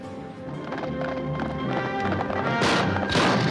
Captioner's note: horses clip-clopping; action instrumental music; gunfire exploding